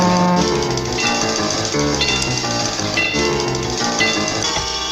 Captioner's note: crossing Gates Closes